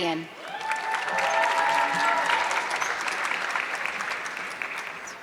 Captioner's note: audience clapping